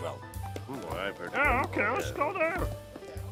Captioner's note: murmuring Agreement